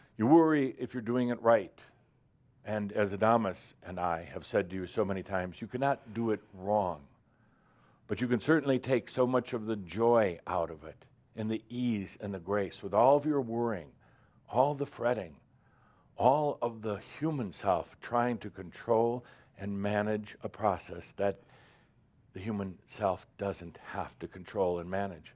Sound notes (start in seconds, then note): none